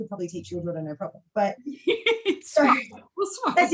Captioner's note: laughs